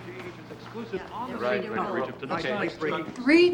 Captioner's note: indistinct chatter